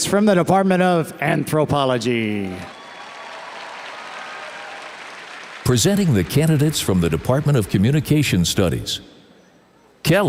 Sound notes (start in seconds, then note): 2.4 audience cheers and applauds